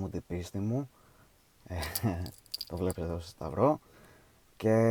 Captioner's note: laughs